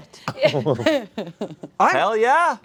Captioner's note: chuckles